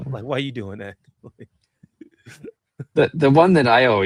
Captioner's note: laughs